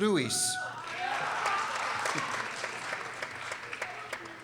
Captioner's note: people cheering